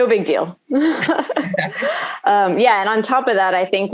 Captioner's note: laughing